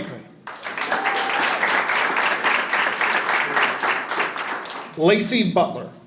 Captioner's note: audience applauding and cheering